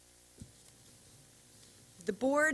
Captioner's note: silence